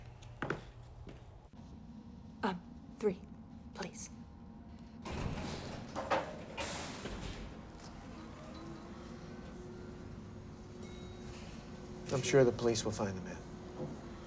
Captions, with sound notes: - Uh, three, please. (elevator graunches) (elevator whirring) (elevator dings) - I'm sure the police will find the man.